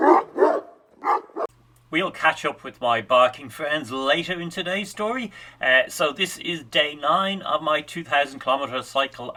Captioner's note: barking